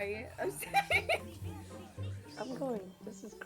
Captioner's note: laughs